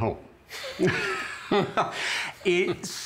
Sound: laughter

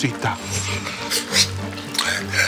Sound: sucking in air; speaking gibberish

